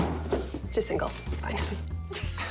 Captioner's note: laughing